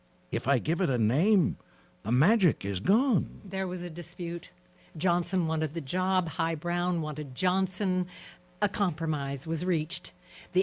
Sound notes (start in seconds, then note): none